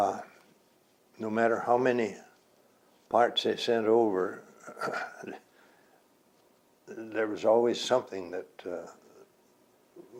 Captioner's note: clears throat